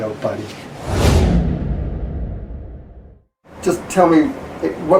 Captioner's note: swooshing